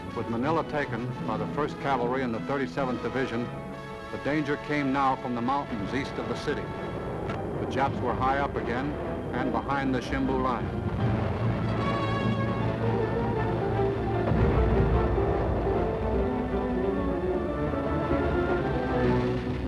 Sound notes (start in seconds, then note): 11.2 booming; 11.2 dramatic music